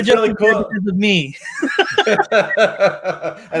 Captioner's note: laughs